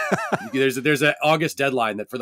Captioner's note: laughing